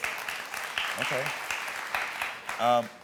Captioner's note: audience applauding